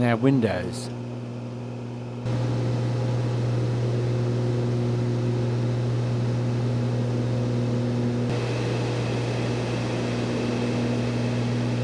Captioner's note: aircraft sounds